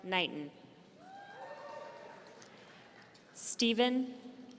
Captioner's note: audience cheering